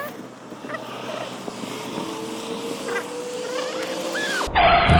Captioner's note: fast pace traffic; car crashes